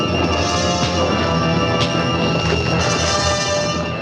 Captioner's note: blows thudding